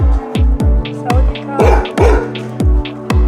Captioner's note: dog Barking